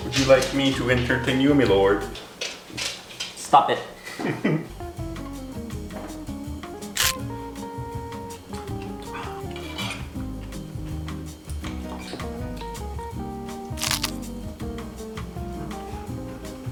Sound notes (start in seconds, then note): 4.1 chuckles; 6.9 food crunching